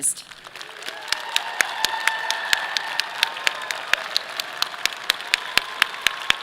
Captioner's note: audience applauding; clapping